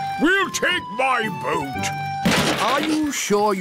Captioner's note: clattering